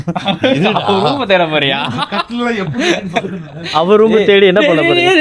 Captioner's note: laughter